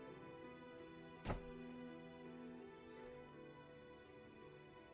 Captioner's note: door slams